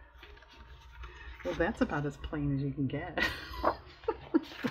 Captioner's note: laughs